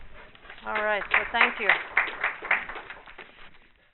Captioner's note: audience applause